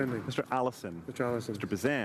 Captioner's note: speaking in French